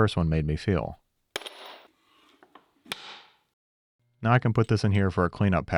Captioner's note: metal clinking